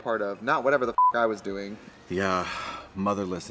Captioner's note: beep